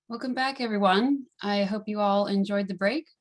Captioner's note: hablando inglés